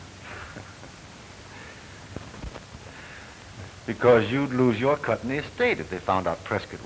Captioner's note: laughs